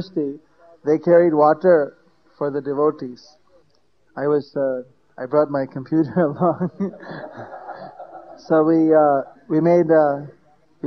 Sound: laughter

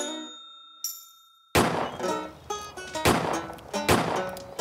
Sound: gunshots

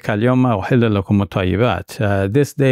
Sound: speaking in foreign language

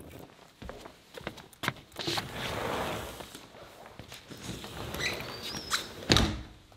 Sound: foot steps clunking; door scrapping

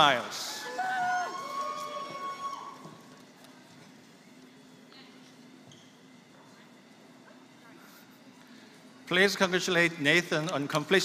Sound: applause

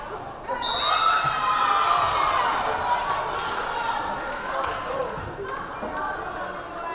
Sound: crowd cheering; whistle blaring

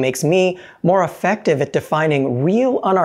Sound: none

